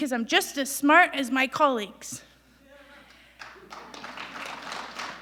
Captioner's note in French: Applaudissements